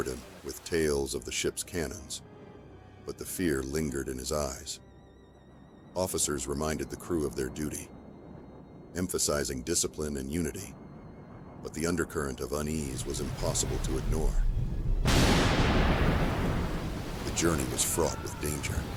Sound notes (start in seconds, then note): 15.0 thunder booms